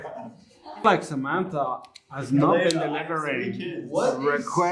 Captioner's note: laughter